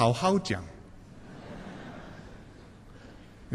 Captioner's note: laughter